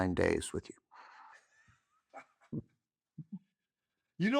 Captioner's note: chuckles